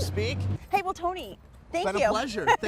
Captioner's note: laughs